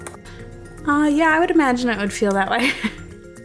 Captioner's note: laughs